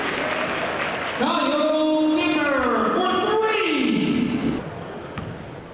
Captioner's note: applause